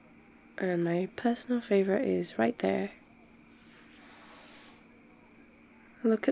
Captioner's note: shuffles closer